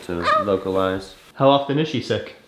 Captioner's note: coos